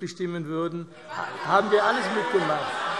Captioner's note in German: Allgemeines Lachen - Zuruf: Wenn sie denn mal da sind!